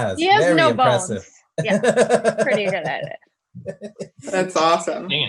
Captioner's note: laughs